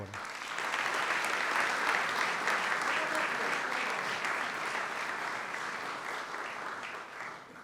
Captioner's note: applause